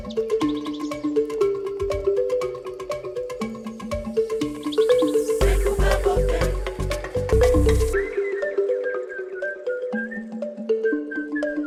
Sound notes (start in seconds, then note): 0.0 birds chirping; 2.1 bright music continues; 4.4 birds chirping; 6.9 bright music continues; 7.7 whistling